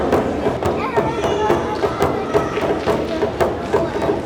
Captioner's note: crowd chattering